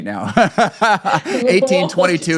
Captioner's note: laughing